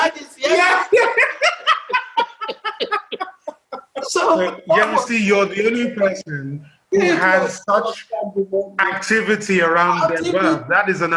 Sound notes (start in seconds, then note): 0.4 laughs